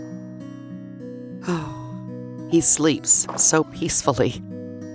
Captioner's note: peaceful music; sighs